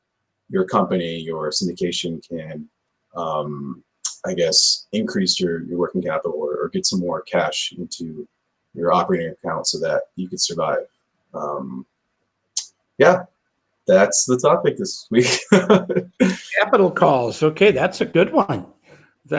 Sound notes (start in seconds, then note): 15.2 laughs